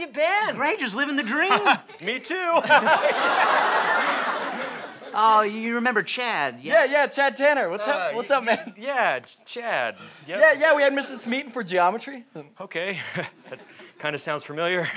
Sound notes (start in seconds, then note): 4.0 laughs